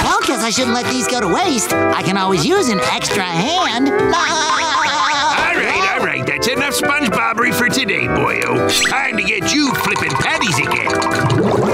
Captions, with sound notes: I shouldn't let these go to waste. I can always use an extra hand. [laughing] All right, all right. That's enough Sponge-bobbery for today, boy-o. Time to get you flipping patties again.